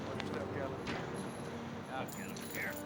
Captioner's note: indistinct chatter; chains rattling